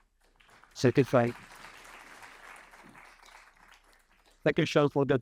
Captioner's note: audience applauding